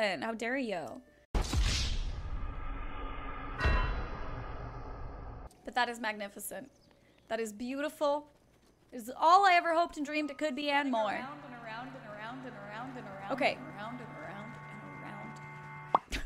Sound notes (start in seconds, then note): 1.4 swords clanging; 2.3 eerie music; 10.0 suspenseful music